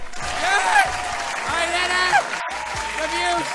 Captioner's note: applause